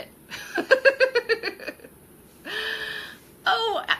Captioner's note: laughing